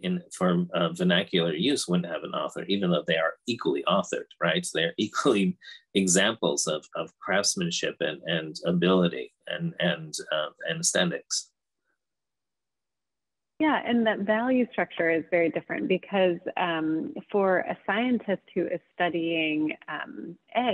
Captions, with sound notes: for vernacular use wouldn't have an author, even though they are equally authored, right? So they're equally (chuckles) examples of craftsmanship and ability and aesthetics. - Yeah, and that value structure is very different because for a scientist who is studying eggs,